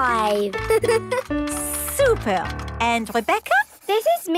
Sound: giggles

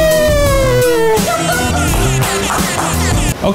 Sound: laughing

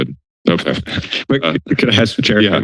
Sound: laughter

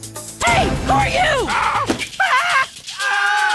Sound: screams; all scream

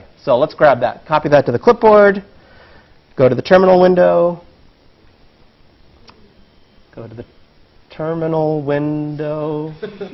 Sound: laugh

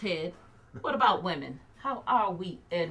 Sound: Edward laughs

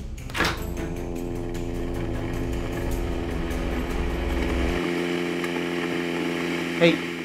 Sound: coffee machine

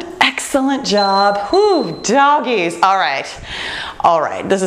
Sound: exhales deeply

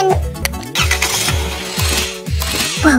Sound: car engine sound

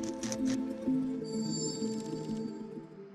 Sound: crackling

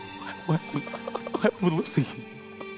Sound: laughs

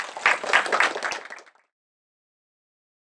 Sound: applause

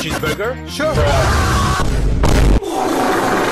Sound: throws Up

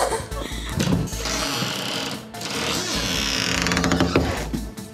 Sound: giggle; door creaking

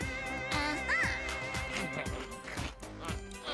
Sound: chomping

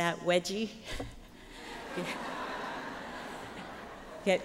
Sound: laughter

